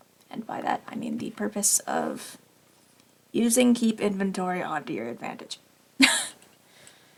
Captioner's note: laughs